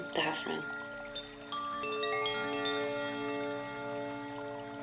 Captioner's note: gentle chiming